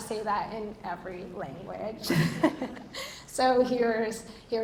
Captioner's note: chuckles